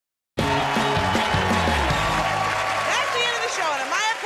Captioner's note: cheers and applause